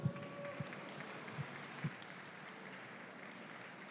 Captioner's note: audience applauds